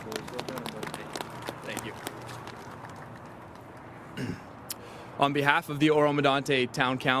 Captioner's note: applause